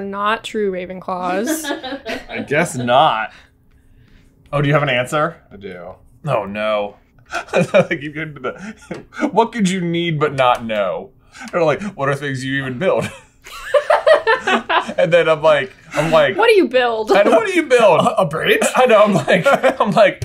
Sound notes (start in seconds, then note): 1.2 laughing; 6.9 laughs; 13.4 laughter